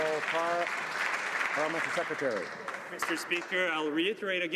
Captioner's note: some Applause